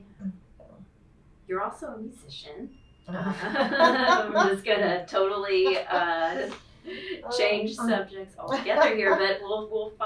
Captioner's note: laughter